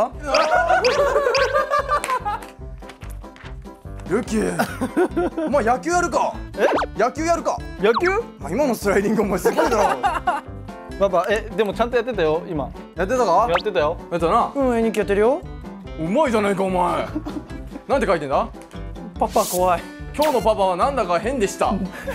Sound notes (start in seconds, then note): 0.3 big moment of laughter; 9.5 haha